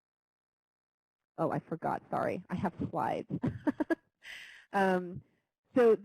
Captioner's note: laughs